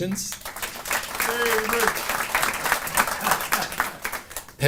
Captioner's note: cheering and laughing